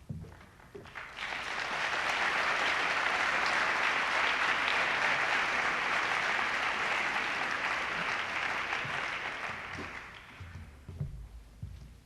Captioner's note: applause